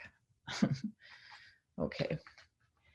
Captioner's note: gently giggles